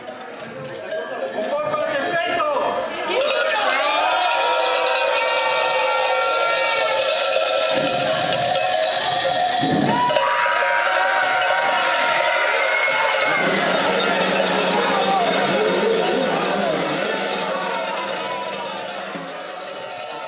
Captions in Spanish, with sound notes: a los transeuntes. El que no paga se las ve con los demonios que, provistos de instrumentos estridentes (cencerros, carracas y bocinas), no paran de darle la matraca hasta que paga. La recaudación se destina a una obra de caridad previamente anunciada.